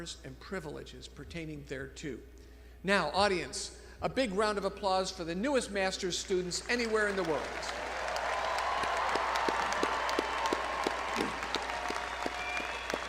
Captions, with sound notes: and privileges pertaining thereto. Now audience, a big round of applause for the newest master's students anywhere in the world. (crowd applauding)